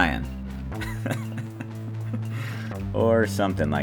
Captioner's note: laughing